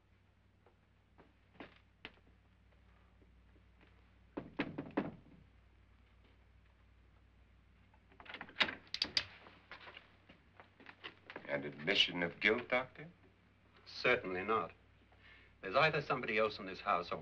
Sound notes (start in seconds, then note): 4.4 knocking on door; 8.2 door opens